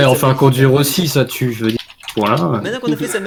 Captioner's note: moaning and gasping